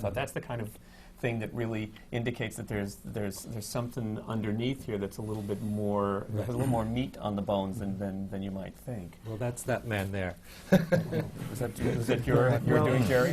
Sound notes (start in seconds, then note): 10.7 laughs